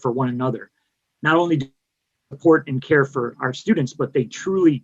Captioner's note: mic cuts out